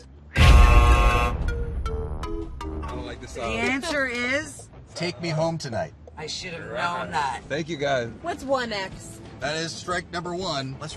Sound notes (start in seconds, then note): 2.5 buzzer